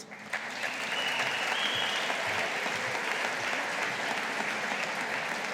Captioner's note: audience applauding